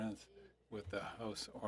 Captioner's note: speaking French